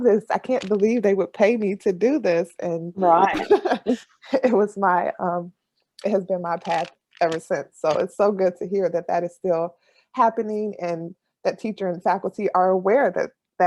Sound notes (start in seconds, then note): 3.0 laughs